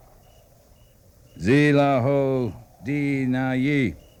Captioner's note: speaking in foreign language